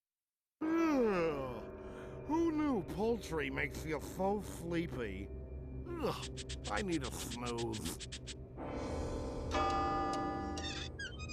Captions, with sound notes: [yawning] WHO KNEW POULTRY MAKES YOU SO SLEEPY. I NEED A SNOOZE. [clock chiming]